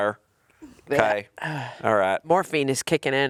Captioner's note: chuckling; sighing